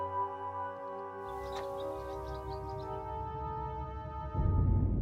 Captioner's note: night birds singing